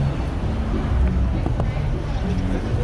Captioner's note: window tap